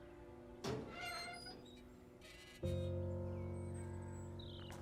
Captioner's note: gate squeaks